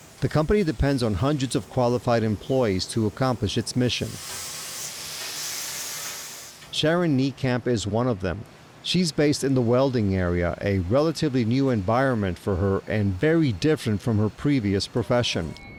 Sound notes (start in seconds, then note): 4.3 machine whirring